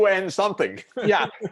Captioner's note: laughter